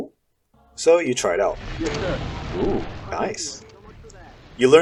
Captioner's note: boom